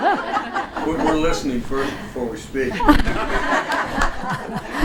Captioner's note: voiceover